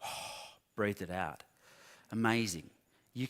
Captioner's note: exhales